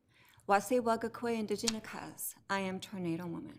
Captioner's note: speaks foreign language